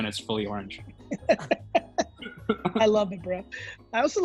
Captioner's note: laughs